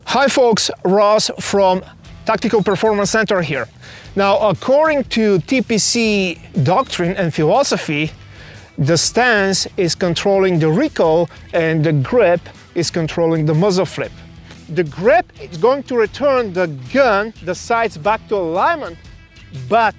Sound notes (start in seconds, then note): 0.5 upbeat music; 2.1 nameplate ticking; 6.8 nameplate ticking